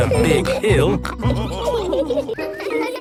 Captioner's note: all laughing